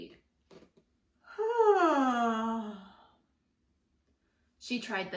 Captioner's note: yawns loudly